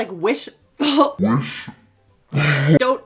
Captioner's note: inhales and chokes on powder